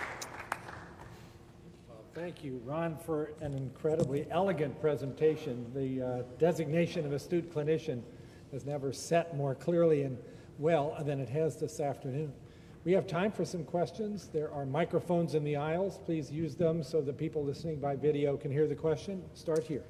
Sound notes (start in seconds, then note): 1.9 applause